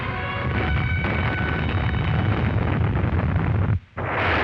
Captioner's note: loud explosions